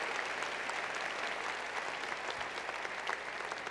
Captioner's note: applause